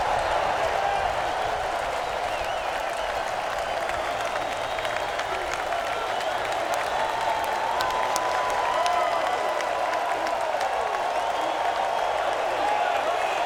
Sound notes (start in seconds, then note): 9.2 crowd cheering continues